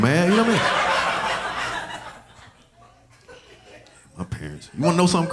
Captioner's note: audience laughing